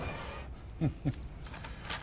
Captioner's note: laughing